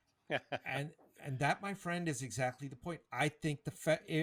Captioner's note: laughs